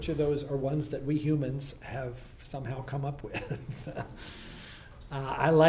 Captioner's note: laughs